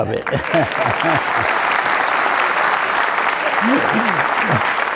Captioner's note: applause